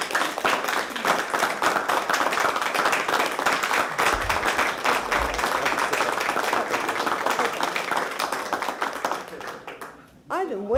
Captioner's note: applause